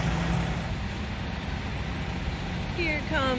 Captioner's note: engine running